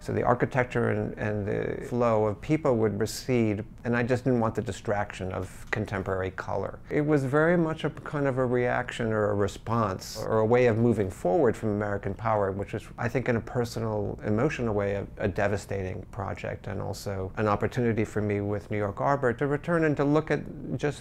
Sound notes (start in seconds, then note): none